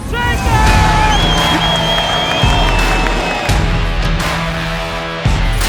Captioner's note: crowd cheering and whistling; upbeat music